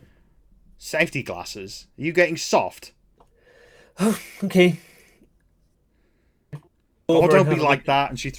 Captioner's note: sighing